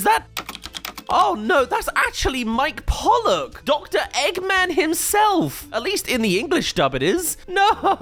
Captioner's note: keyboard